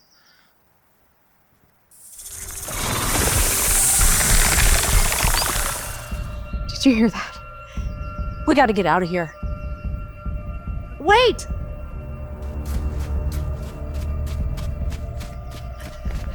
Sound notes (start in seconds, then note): 1.9 snake hisses; 1.9 snake rattles; 12.7 tense suspenseful music